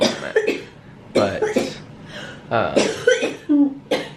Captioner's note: coughing